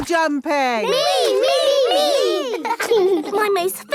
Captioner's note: laughing